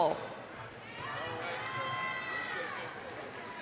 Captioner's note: applause, cheering